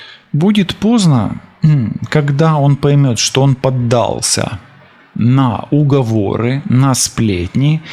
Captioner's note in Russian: откашливается